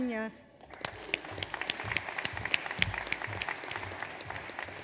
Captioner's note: audience applauds